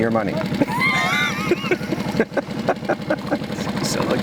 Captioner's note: men chuckling